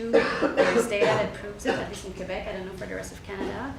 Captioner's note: audience member coughing